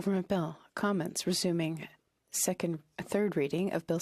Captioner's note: speaking FRENCH